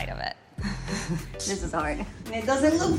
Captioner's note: laughs